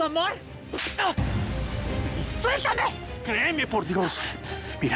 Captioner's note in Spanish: ruido de bofetada